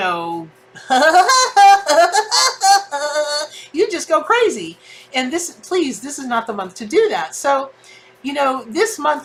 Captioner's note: cartoon laugh